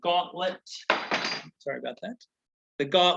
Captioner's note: metal clanking